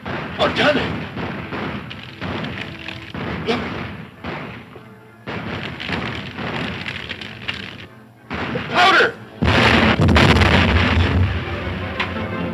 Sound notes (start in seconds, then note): 9.4 exploding